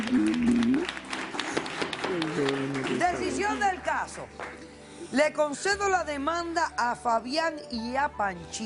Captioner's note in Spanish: Aplausos